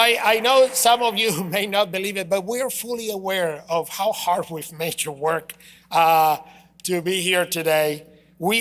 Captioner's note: applause